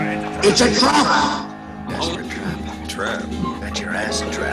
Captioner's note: goblin growling